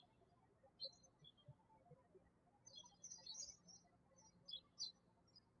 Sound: birds chirping

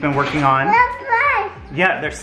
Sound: speaking gibberish

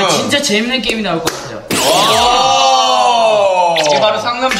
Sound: kapow

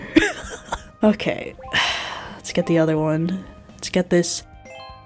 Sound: sigh

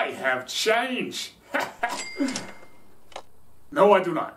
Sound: laughs, confidently

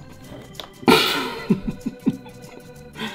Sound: laughs

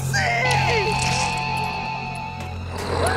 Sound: eyeball squelching; zombie growls

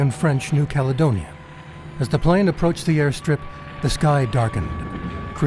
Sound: propellor noises

